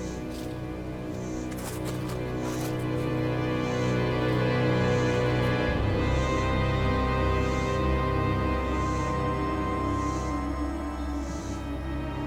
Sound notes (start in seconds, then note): 0.7 dramatic music continues; 1.3 grass crunches